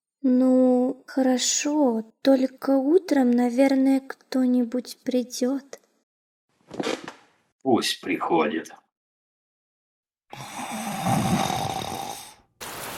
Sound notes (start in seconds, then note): 6.6 chair creaking; 10.3 snoring; 12.6 rain